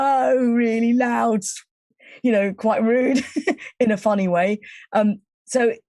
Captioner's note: chuckling